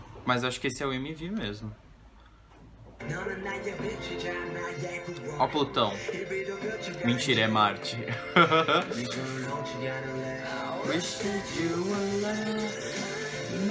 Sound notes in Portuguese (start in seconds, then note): 7.9 risos